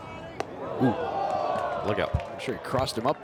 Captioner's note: crowd boos